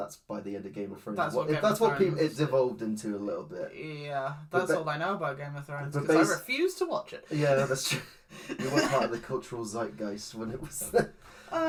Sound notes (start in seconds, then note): 7.4 scoffs; 8.4 laughs